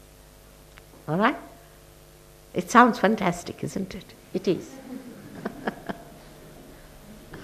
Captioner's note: shri mataji laughs